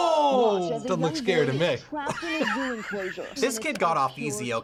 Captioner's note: laughs